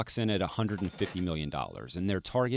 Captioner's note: cash register ringing